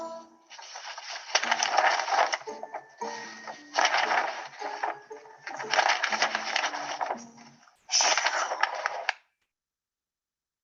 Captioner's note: shuffling papers